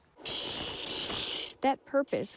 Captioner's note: tool grinding